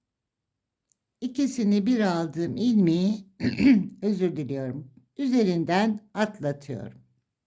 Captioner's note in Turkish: boğazını temizler